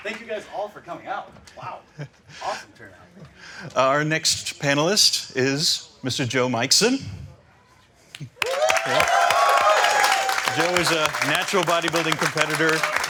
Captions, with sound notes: Thank you guys all for coming out. Wow, awesome turn out. - Our next panelist is Mr. Joe Mikeson. (crowd cheering) Joe is a natural bodybuilding competitor,